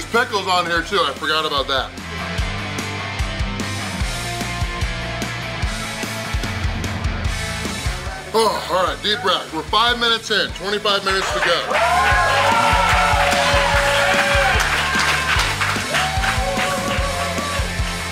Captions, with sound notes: There's pickles on here too, I forgot about that. All right, deep breath. We're five minutes in, 25 minutes to go. (crowd applauding) (crowd cheering)